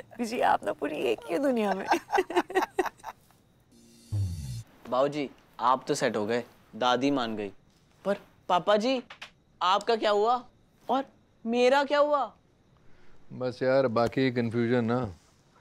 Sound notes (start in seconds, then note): 1.6 both giggling